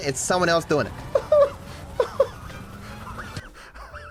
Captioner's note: laughs